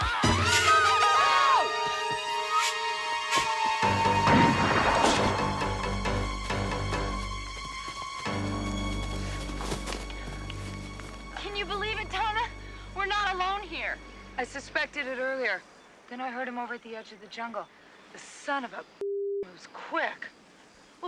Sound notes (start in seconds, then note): 0.0 Taryn screaming; 0.2 man yelling; 4.5 dramatic music; 4.5 gun firing